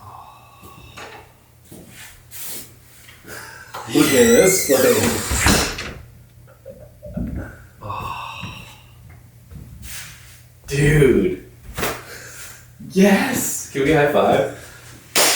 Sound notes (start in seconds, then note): 0.1 loudly exhales; 3.8 door squeaking; 5.7 door thudding; 7.6 footsteps plodding